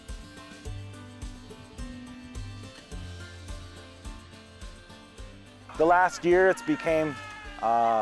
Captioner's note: lively music; people shouting